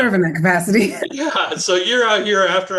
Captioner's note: laughter